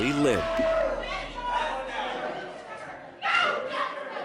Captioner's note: shouting